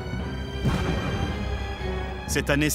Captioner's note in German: Kanonenschuss